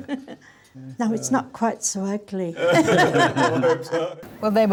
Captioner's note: all laugh